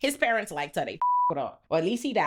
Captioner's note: beep